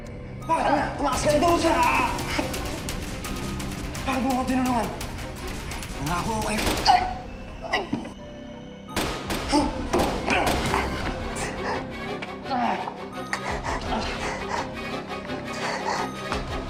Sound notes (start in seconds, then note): 7.1 groans; 8.8 grunts; 8.9 gunshot; 10.2 suspenseful music playing; 12.3 groans, breathes heavily